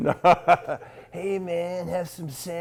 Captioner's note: laughing